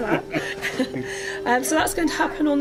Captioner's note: laughs